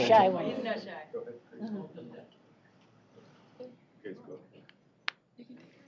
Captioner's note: indistinct chatter